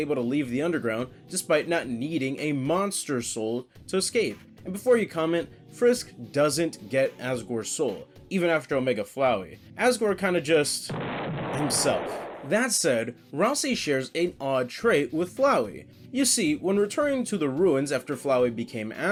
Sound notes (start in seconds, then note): 10.9 ka-boom